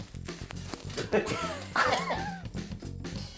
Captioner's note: laughter